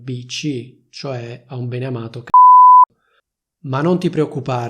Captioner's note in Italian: beep